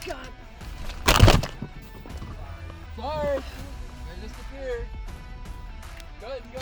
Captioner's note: static crackles